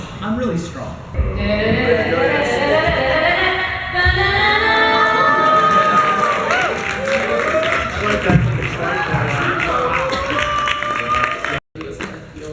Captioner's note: crowd cheers